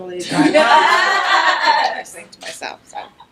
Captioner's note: background laughter